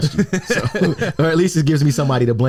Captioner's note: laughs